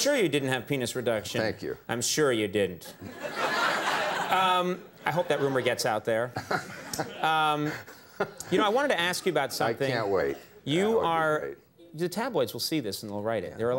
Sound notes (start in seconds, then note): 3.0 audience laughs; 6.3 Tom chuckles